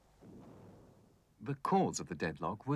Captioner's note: planes exploding